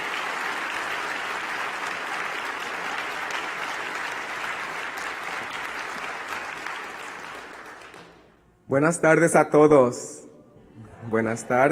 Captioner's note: applause